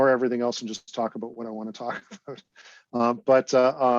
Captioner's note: laughs